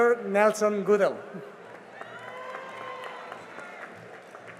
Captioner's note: cheering and applause